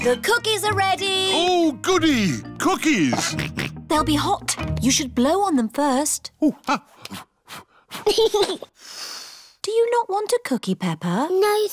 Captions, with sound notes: The cookies are ready! Ooh, goody! Cookies! They'll be hot, you should blow on them first. Ooh, ah! (BLOWS) (GIGGLES AND BLOWS) Do you not want a cookie, Peppa?